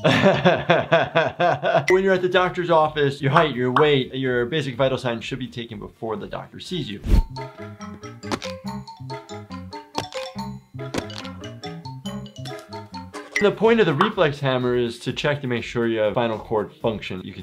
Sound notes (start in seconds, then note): 0.0 laughing; 7.3 playful music; 8.2 bones crunching; 8.4 hammer thudding